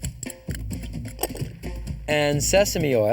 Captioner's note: clanking